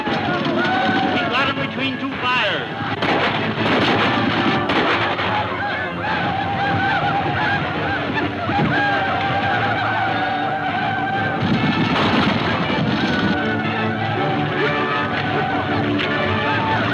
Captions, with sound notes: - We've got 'em between two fires. (gunfire pops) (tense music)